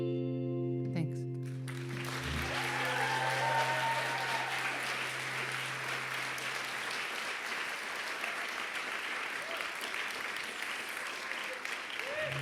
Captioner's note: applause